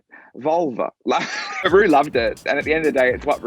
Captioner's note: laughing